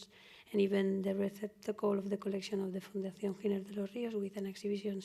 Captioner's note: spanish